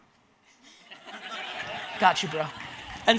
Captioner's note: audience laughs